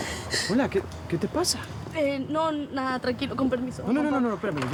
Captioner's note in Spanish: Sollozos